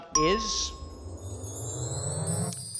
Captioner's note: bell rings